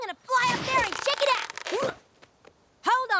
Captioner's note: creak!; grunts